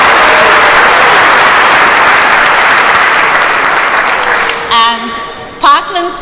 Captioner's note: applause